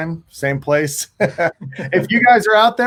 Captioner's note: laughing